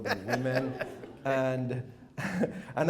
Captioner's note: chuckles